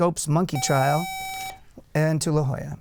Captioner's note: buzzer